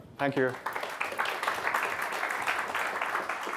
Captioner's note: applause